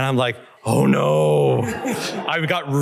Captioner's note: laughter